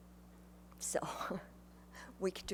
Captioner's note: chuckles